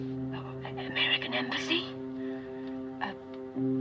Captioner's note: whispering